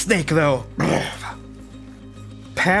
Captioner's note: growls